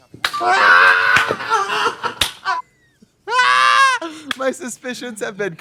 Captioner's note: both laugh; Trixie squalls; Katya claps